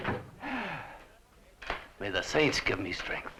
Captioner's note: sighs